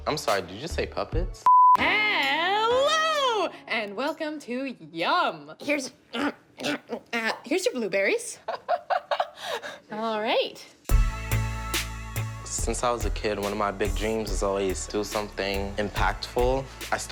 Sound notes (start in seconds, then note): 1.4 beep; 6.1 grunts; 8.4 laughing